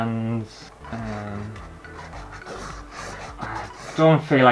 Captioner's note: pen Scraping On Canvas